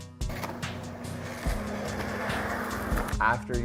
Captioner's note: skateboard rumbling